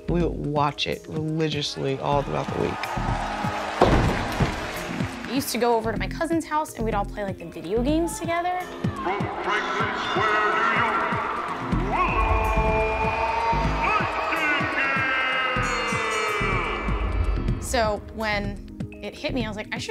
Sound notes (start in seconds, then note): 3.5 crowd cheers; 15.6 bell rings; 15.8 crowd cheers